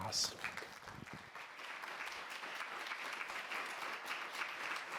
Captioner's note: audience applauds